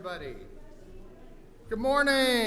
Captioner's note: audience murmurs